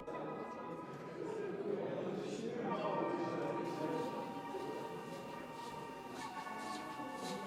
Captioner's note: people talking; ominous electronic music